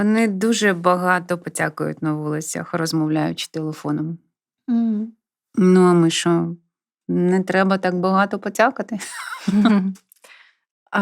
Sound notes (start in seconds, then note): 9.0 laughter